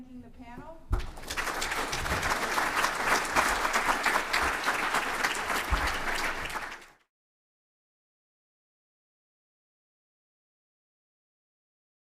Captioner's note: applause